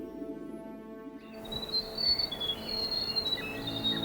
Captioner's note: birds trilling